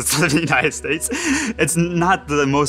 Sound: laughs

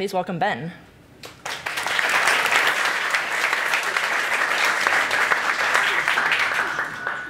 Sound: applause

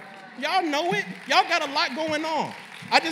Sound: applause

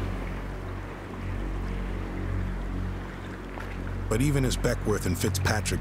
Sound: wind howling

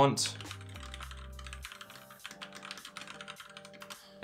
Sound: keyboard ticking

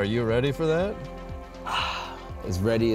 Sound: sighs

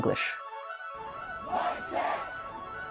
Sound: people chanting

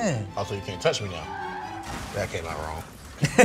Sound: car screeching

